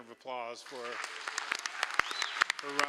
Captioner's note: applause